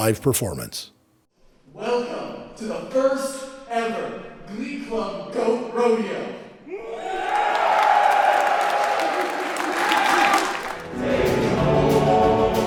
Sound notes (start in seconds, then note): 6.7 enthusiastic cheers